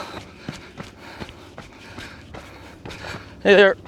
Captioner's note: panting